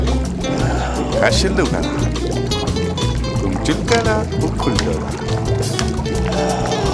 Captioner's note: speaking Turkish